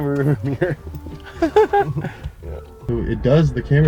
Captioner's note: both laugh